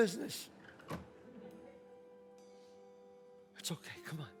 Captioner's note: window shuts